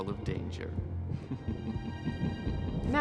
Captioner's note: evil snicker